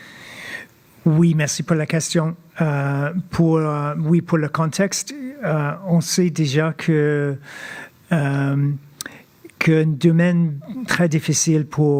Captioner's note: speaking French